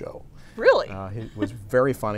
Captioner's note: laughs